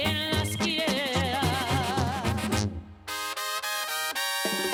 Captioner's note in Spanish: Suena el celular